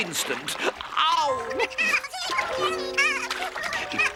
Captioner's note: Fish giggling